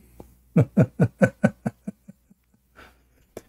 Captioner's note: Ketawa